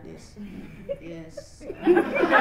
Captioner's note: deadpan; laughter